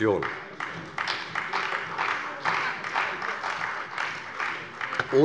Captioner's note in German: Beifall bei der CDU